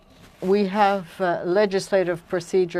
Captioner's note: speaking French